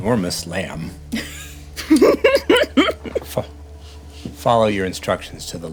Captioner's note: laughing